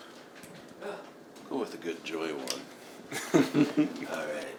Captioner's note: chuckles